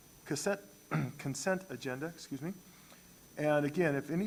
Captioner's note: clears throat